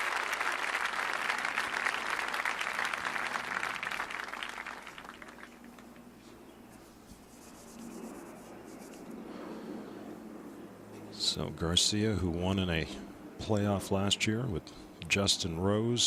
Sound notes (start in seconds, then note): 2.3 applause